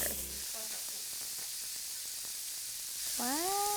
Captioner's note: pressure cooker whistling